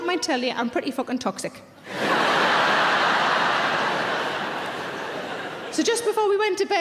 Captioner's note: audience laughing loudly